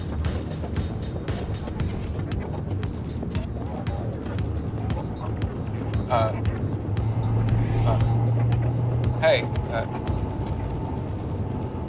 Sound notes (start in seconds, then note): 1.1 Mason stuttering; 1.1 energetic music continues